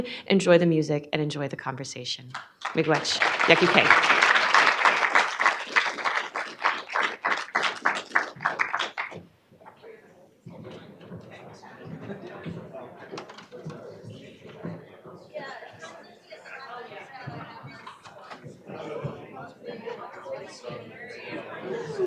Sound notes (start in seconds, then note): 5.5 applause